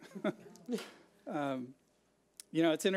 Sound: laughs

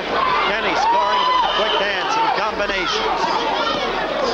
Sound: crowd cheering

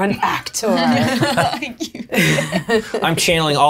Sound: laughing

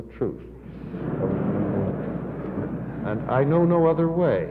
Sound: audience laughing

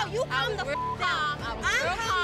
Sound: beep

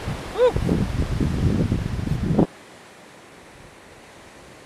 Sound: waves crashing

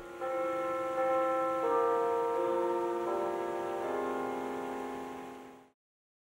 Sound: belltower chimes

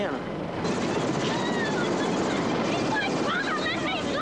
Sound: helicopter

